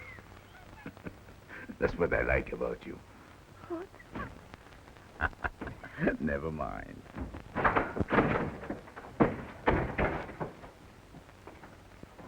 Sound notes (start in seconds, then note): 0.5 Pepe laughs; 5.1 Pepe laughs; 7.7 door clicks open